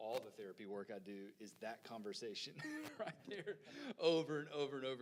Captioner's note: laughing